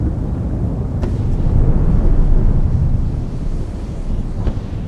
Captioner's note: volcanoes rumbling